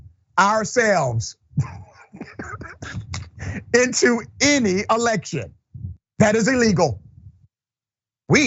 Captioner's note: laugh